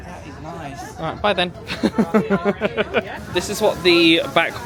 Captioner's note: laughs